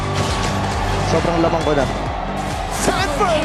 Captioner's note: in Tagalog; commentator 1, in English